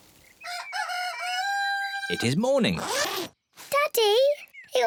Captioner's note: cockerel crows